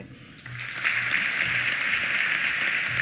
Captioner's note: applause